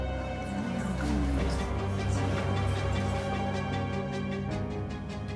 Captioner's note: noise from the crowd